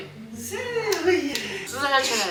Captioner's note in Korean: 쩝 쩝